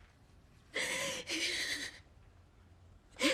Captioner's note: labored breathing; gasping breaths